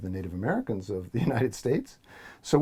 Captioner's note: laugh